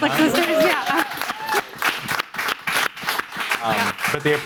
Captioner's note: audience applauding